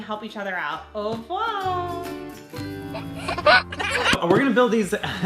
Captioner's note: baby laughs